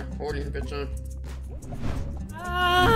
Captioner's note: woosh